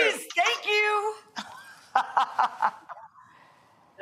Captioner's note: laughing